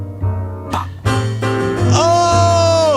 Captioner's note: mellow piano music; mimicking drum beat